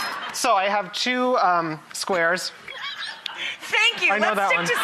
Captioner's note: laughing; chuckling